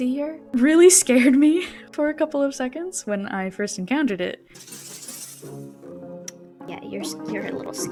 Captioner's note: tsks